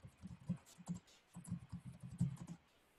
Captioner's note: typing